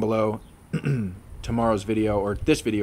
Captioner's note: clears throat